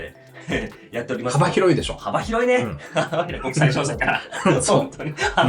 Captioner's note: laughs